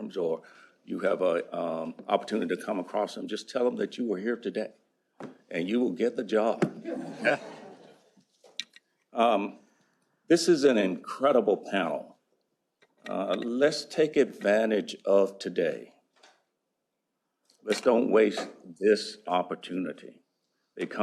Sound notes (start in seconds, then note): 6.8 laughter